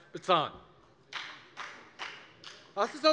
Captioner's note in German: Beifall bei der FDP